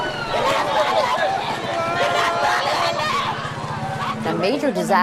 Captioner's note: helicopters whirring above; yelling